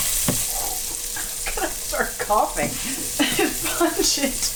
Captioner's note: blows air; laughs